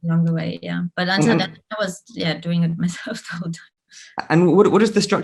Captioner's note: giggles